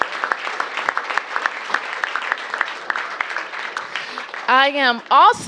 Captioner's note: cheers and applause